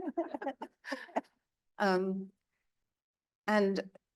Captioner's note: both laughing